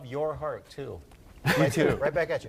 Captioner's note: chuckles